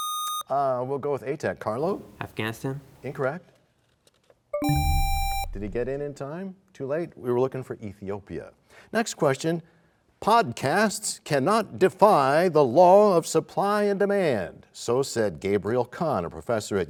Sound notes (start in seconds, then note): 4.5 bell chimes, time expires; 4.6 buzzer sound